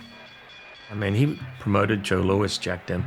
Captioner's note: bell dinging